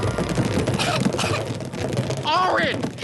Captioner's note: cough